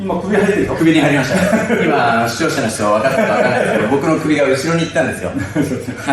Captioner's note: laughs